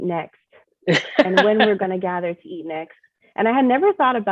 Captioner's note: chef laughing in background